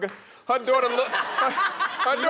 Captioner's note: laughing